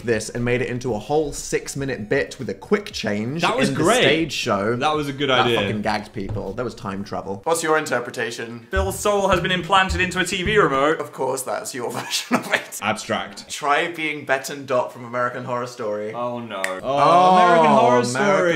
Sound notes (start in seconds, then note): 11.9 laughs